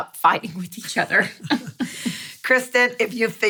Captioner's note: laughing